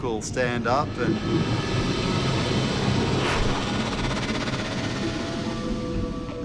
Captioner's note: tense fractured crackling